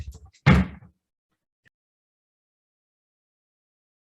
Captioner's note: gavel bangs